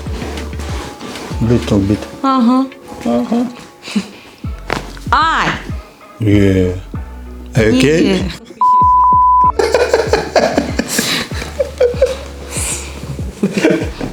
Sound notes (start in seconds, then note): 4.8 crunches of bones; 9.5 laughing